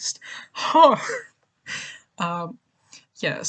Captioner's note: laughs